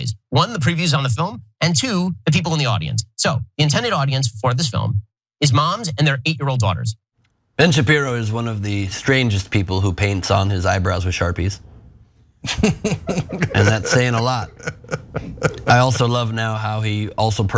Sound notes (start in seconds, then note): 12.4 laugh